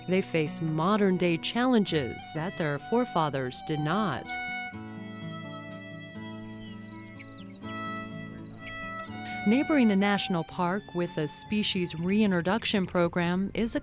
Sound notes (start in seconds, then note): 4.7 soft music; 6.6 birds chirping